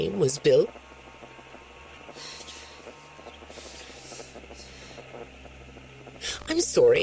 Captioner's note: long, awkward silence. Vanessa mumbles something indistinct